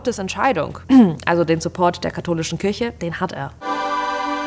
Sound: cough

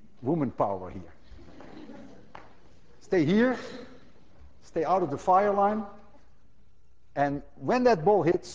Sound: class laughs

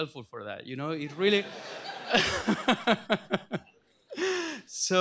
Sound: laughter

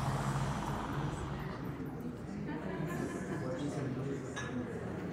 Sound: group chatting

